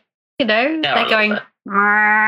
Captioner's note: laughs